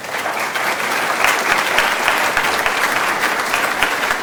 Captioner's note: applause